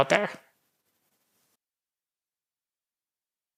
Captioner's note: silence